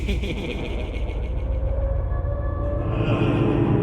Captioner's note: Tim laughing